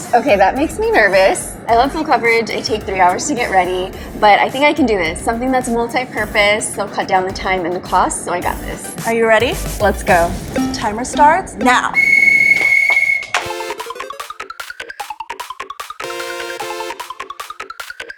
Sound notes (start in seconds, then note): 11.9 whistle blows; 13.2 electronic music